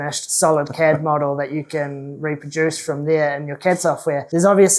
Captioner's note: laughs